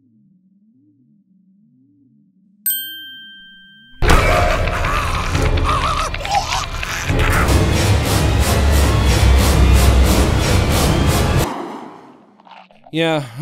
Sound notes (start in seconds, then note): 4.1 Goofball choking; 11.4 Goofball chewing loudly